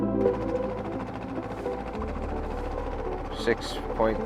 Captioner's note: boat engine rumbling